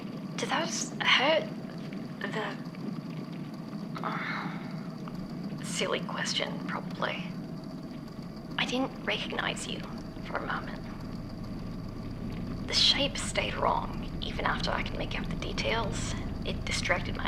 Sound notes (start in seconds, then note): none